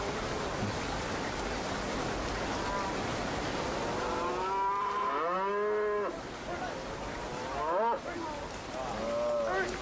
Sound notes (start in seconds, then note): 1.5 cows calling